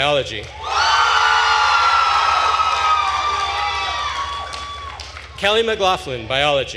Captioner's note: attendees cheering and applauding